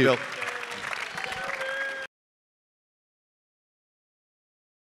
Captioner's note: audience applauding